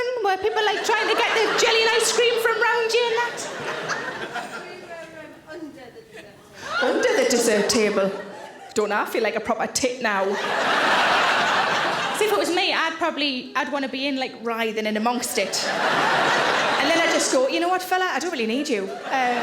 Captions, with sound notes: Were people trying to get their jelly and ice cream, from around you and that? - We were under the dessert table. - Under the dessert table. Don't I feel like a proper tit now. (audience laughing) See if it was me I'd probably, I'd want to be in, like writhing in amongst it. (audience laughing) And then I just thought, you know what fella, I don't really need you.